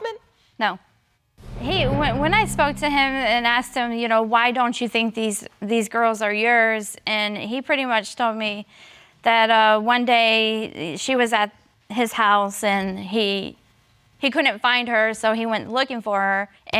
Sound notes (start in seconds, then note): none